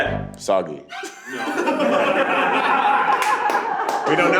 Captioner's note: group laughs